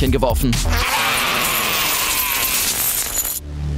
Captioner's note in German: Geldgeklimper